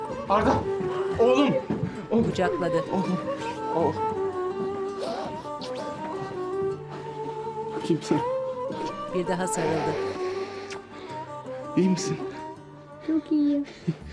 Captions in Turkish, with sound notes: Arda oğlum, oğlum, oğlum, oğlum! (Öpme sesi) Bakayım sana. (Koklama sesi) (Öpme sesi) -İyi misin? -Çok iyiyim.